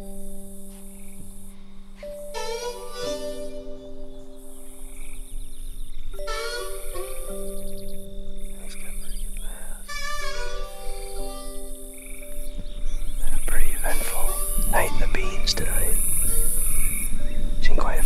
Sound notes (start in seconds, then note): 1.8 frogs croaking